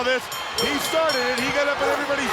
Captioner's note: bell rings